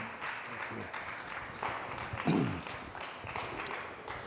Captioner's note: clapping